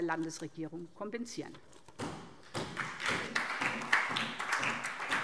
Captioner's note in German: Beifall DIE LINKE